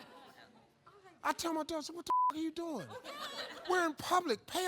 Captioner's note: beep